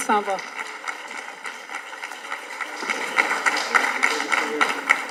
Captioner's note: audience applauding